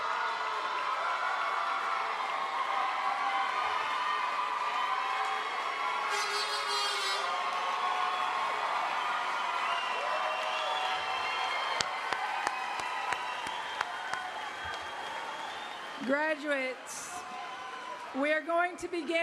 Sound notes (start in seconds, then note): 6.3 applause; 14.4 cheering and applause